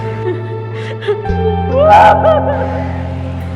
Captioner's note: screaming in pain